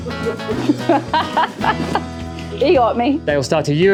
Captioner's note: laughing